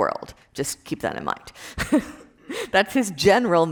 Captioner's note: laughs